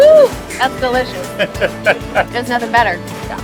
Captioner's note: laughing